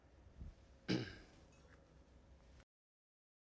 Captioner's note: clears throat